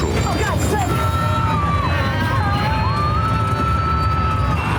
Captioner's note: passengers screaming